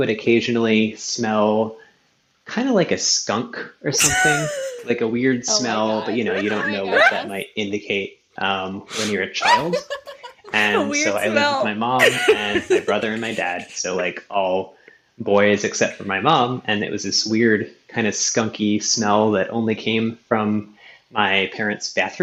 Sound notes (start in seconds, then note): 8.9 laughing